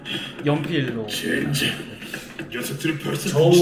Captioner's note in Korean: 현직 성우 녹음